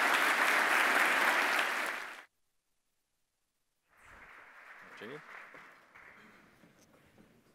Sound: applause

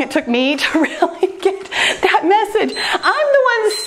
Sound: timer beeps

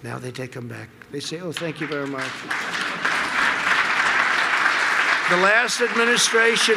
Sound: applause

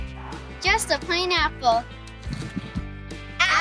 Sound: crunch

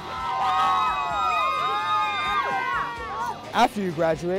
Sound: cheering

